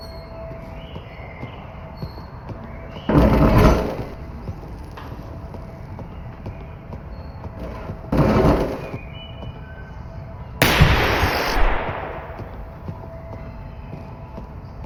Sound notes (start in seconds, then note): 10.6 gunshot